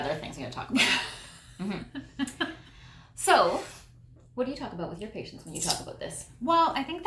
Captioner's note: laughter